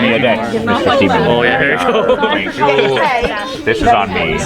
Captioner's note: people chattering